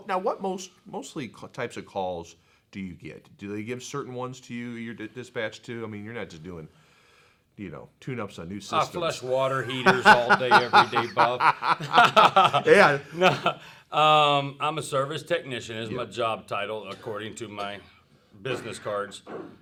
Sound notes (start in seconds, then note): 12.1 both laugh